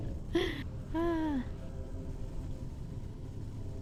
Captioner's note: sighs